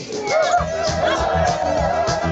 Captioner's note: crowd cheering; dramatic music